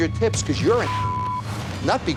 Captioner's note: beep